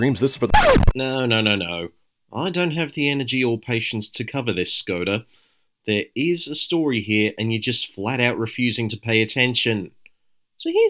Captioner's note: record scratch